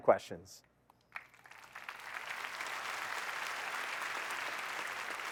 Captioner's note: applause